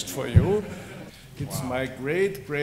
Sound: laughter

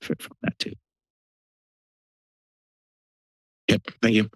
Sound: silence

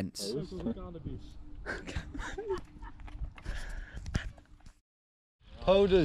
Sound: wife laughing

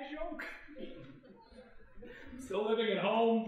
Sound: crying

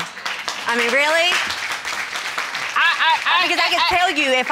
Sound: audience applauding

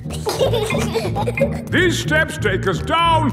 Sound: giggling

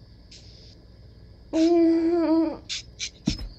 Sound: groans

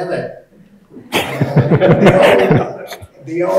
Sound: everyone chuckling

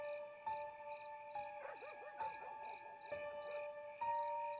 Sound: dog Barking, Distant

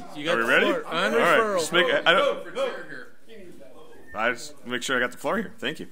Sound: overlapping chattering

